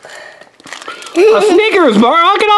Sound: assistant giggles

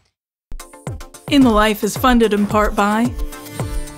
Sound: announcer, over music

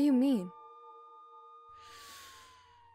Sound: police sirens in the distance

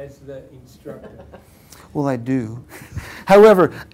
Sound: laugh

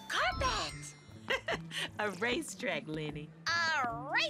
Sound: chuckles

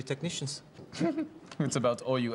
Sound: chuckles

